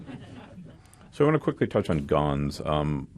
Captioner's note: laughter